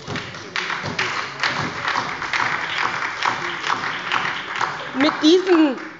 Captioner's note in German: Beifall bei der SPD